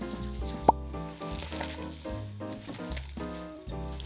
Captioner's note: kale leaves crumpling